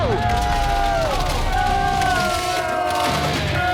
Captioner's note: groans